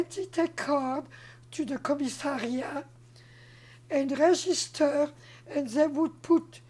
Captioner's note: french